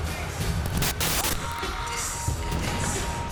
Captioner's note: static crackling; rock music